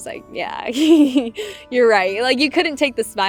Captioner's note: laughs